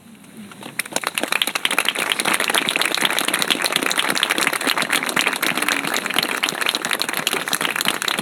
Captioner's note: applause